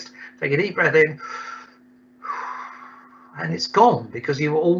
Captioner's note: inhales deeply